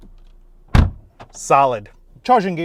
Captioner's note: door thuds